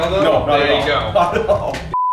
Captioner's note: laughing